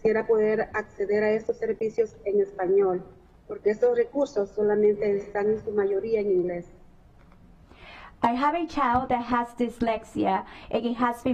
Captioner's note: speaking spanish